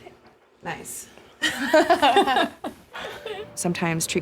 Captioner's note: both laugh